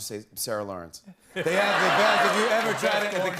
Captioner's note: laughter